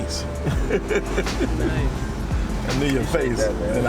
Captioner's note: laughs